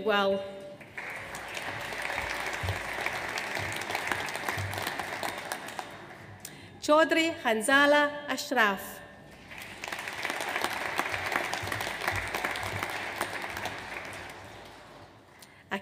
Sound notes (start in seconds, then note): 0.8 audience applauds; 9.3 audience applauds